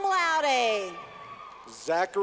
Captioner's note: clapping